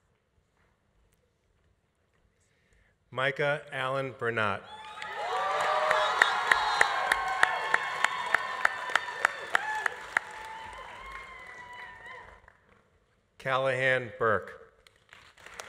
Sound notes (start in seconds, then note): 4.8 audience applauding; 4.8 audience cheering; 7.5 audience applause continues; 7.5 audience cheering continues; 15.1 audience applauding